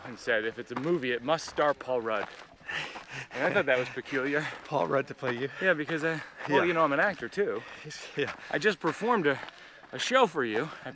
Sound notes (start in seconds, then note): 2.7 laughs